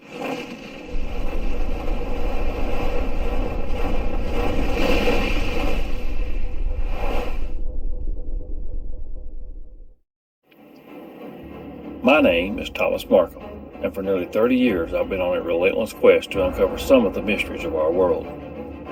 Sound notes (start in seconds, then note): 2.3 feline swooshes